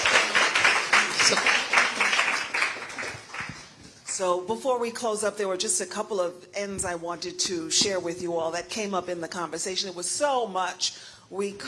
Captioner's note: applause